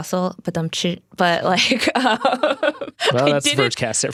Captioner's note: laughs